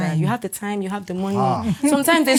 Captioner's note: laughs